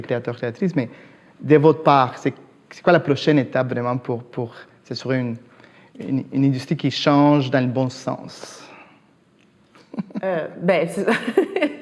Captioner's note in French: rires